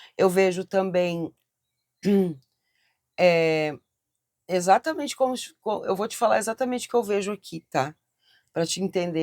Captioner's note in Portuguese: limpando a garganta